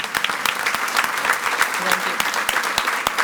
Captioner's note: audience applauds